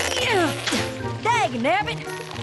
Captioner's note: snap